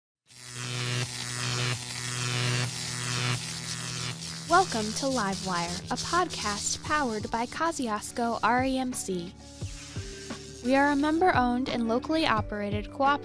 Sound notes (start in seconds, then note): 0.4 electricity noise